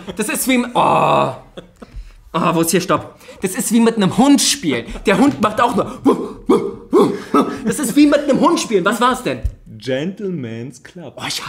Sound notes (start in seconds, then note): 6.0 imitates barking